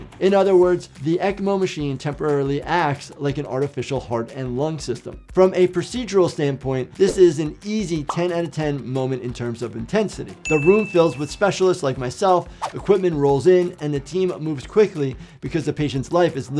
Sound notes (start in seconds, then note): 10.4 bell dinging